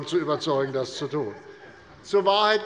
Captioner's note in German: Heiterkeit